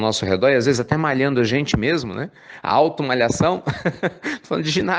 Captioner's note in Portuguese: Risos